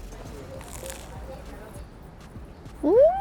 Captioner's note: food crunches